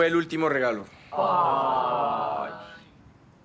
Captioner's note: collective disappointed aww